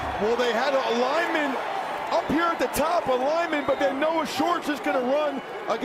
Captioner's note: cheers and applause